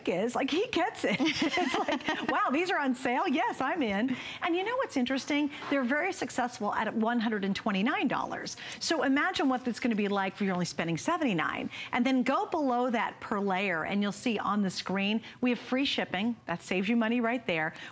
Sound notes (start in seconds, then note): 1.0 laughter